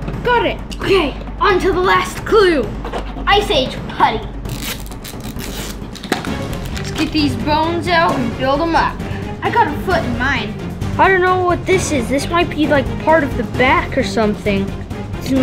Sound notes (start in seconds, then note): 4.4 wrappers crinkling